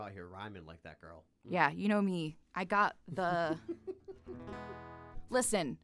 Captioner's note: laughing